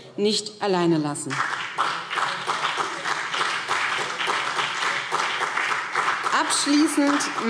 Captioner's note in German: Beifall BÜNDNIS 90/DIE GRÜNEN und CDU